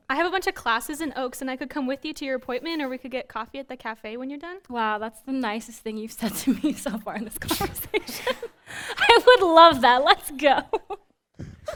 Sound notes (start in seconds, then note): 7.6 all laughing